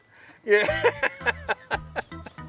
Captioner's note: laughter